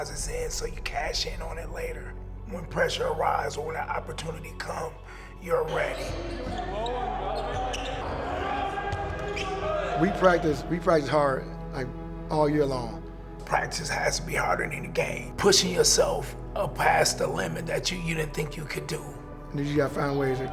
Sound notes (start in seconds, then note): 8.8 shoes squeaking; 9.8 players chattering